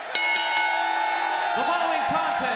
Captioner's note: crowd cheering; bell ringing